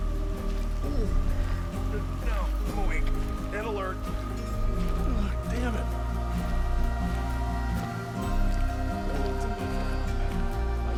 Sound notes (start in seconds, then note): 0.8 yawns